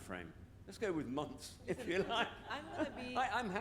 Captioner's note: laughs